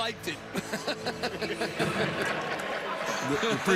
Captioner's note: laughter